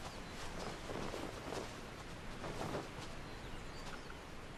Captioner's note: birds chirping